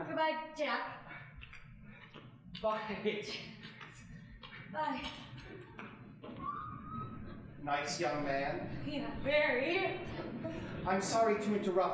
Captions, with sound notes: Goodbye, Jack... >> Bye... (chuckling, stunned) >> Bye. (squealing softly) >> Nice young man? >> Yeah, very! >> I'm sorry to interrupt,